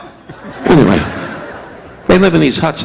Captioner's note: audience laughing